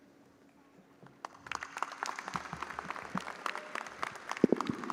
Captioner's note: audience applauding